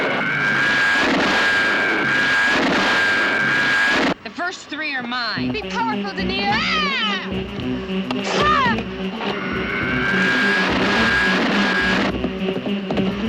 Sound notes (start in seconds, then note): 7.4 dramatic music; 9.8 zooming